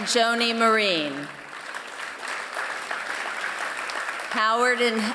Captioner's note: applause